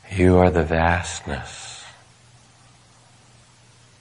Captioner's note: none